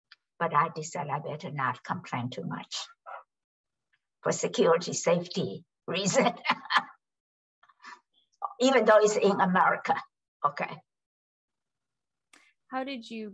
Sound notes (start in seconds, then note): 6.1 laughs